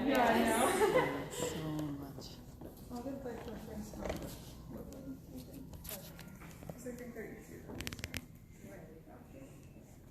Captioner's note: indistinct conversation